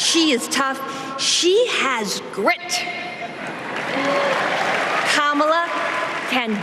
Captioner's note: applause